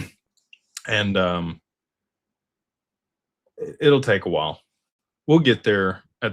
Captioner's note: clears throat